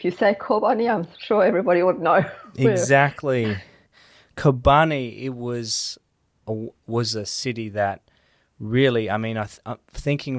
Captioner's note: chuckles